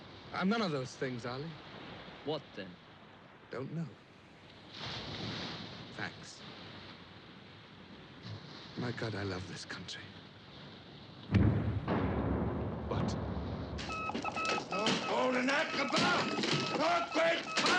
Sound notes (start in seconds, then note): 11.2 rumbling; 13.8 beeping